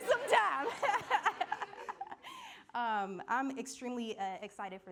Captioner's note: laughing